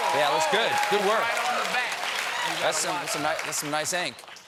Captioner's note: cheers and applause